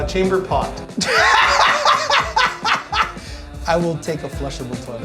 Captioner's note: laughs